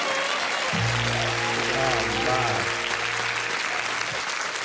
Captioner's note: audience applauding; banjo music